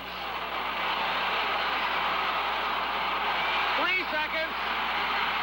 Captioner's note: crowd cheering